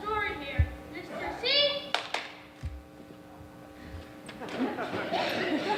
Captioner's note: claps